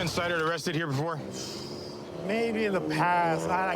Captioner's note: exhales sharply